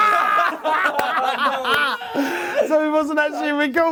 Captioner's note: laughing